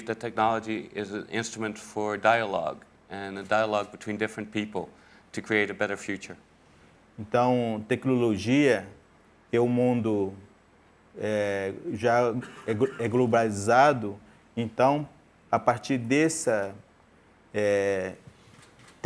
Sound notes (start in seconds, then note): 10.6 speaking in portuguese